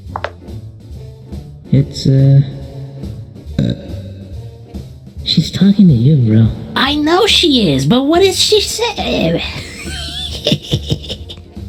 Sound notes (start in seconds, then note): 3.5 Plushtrap burps; 9.4 Plushtrap giggles like a gremlin